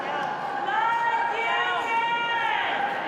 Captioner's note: continues cheering